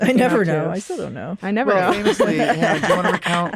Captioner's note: laughter